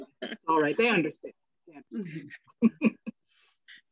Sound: laughs

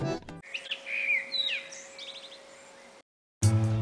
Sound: birds chirrping

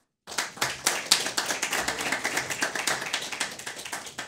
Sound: audience applauding

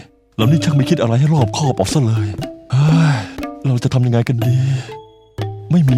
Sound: sigh

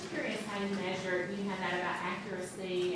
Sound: voiceover

